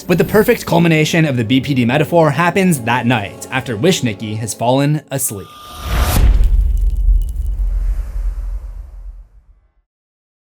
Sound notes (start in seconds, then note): 5.7 impact